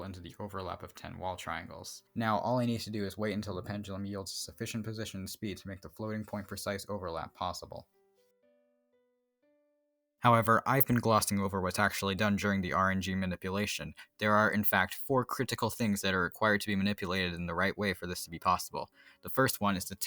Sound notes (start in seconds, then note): 10.2 pause